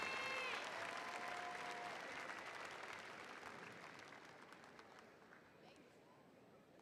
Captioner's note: audience applauding and cheering